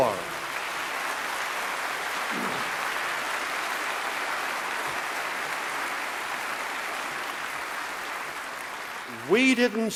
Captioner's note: applause